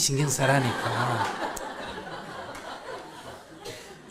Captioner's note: audience laughter